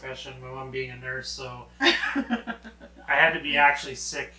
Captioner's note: laughing